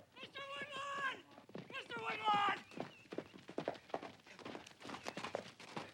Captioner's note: hooves clopping